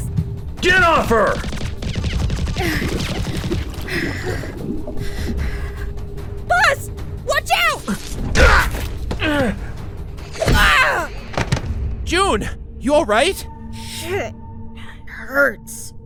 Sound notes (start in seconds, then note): 3.8 panting